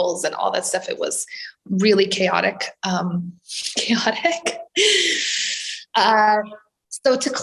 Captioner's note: laughs, inhales